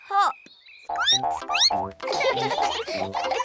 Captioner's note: all giggle; squeaks